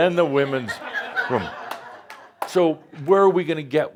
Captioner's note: laughter